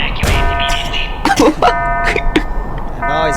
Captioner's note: laughs to myself